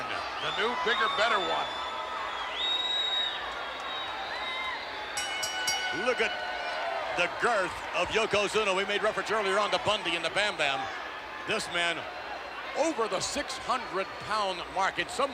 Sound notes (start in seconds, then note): 5.1 bell rings